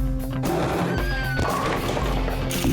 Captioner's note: screaming